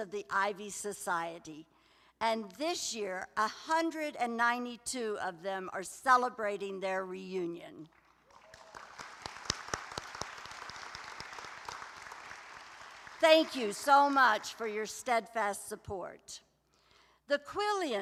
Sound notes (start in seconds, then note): 7.9 applause